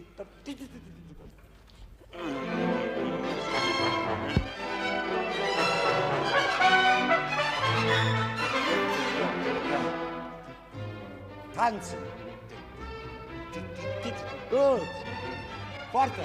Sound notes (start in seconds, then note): 2.4 orchestra playing; 11.6 speaking foreign language